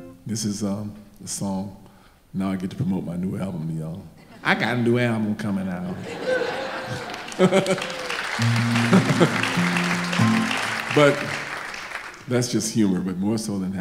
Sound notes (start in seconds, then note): 5.8 audience laughing; 5.9 laughs; 8.7 audience applauding